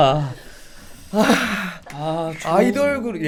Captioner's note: sigh